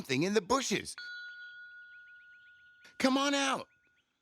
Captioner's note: bell rings